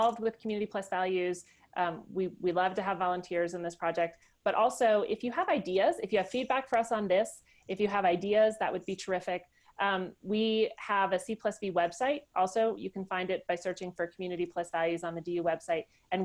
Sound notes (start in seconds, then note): none